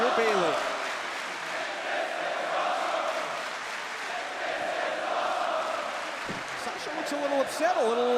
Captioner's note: crowd cheering